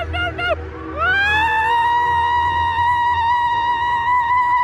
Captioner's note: screams